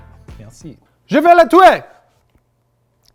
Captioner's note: speaking in foreign language